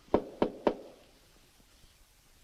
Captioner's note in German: Klopfen